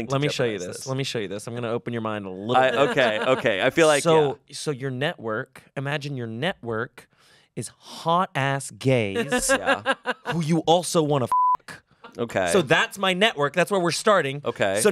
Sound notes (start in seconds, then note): 9.2 laughs; 11.3 beep